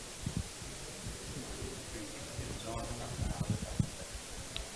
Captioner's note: audience mumbles